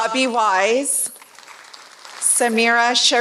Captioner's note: applause